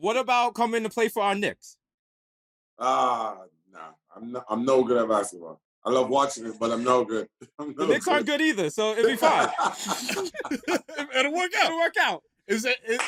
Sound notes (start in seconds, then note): 9.0 laughter